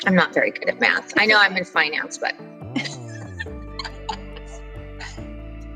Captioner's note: laughs